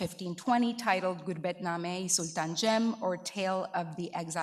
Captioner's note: speaking in foreign language